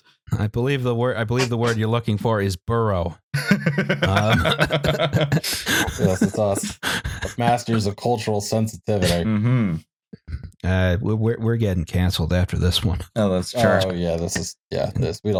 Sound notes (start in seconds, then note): 3.3 laughter